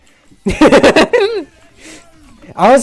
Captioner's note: laughs